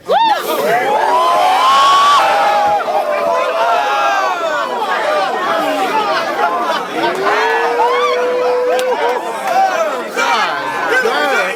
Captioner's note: crowd Reaction